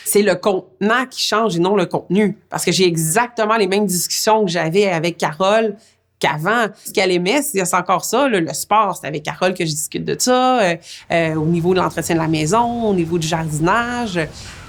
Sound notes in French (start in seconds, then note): none